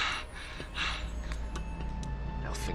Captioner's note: Daveyboy breathing heavily